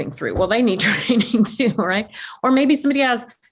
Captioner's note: laughs